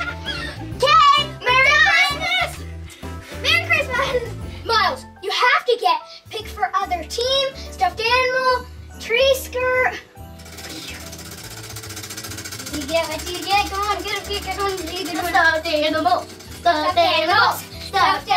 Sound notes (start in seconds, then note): 10.3 wheel spinning